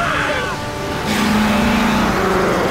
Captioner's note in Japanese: クラーケンのうなり声